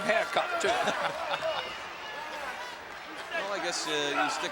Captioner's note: laughs